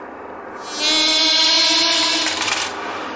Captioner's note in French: son amplifié de la mouche